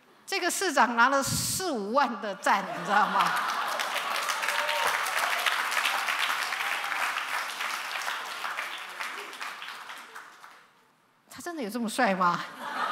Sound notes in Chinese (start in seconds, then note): 2.8 掌聲歡呼